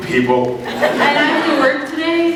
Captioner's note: laughs